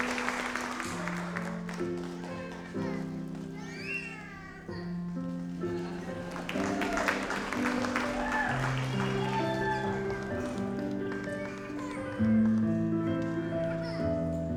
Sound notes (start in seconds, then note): 0.0 audience applauds; 0.3 gentle music; 5.5 audience applauds; 9.7 gentle music